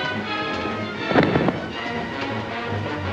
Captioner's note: suspenseful music; thump; suspenseful music